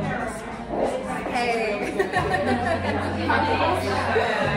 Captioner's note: laughs